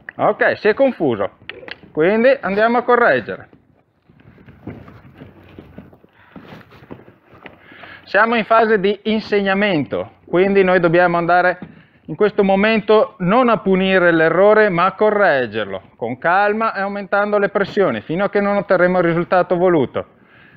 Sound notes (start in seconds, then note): 1.4 cluck